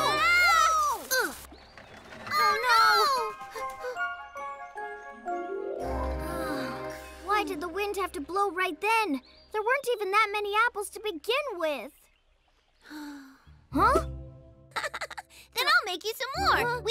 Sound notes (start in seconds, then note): 6.2 sighs wearily; 12.8 sighs; 14.7 chuckles